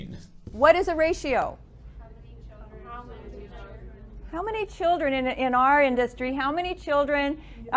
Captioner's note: students discuss in background